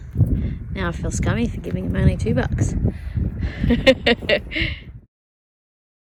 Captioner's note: chuckle